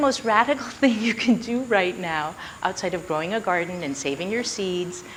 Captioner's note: chuckles